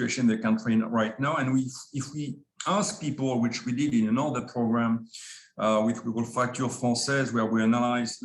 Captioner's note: French